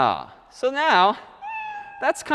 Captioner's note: meow